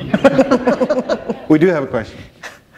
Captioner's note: laughter